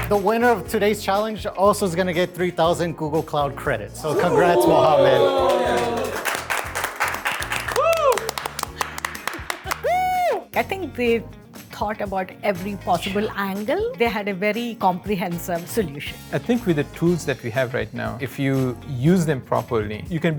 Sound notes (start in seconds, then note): 5.0 applause; 7.2 cheers; 9.6 laughs